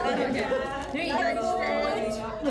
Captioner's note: crowd chattering